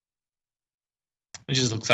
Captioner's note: silence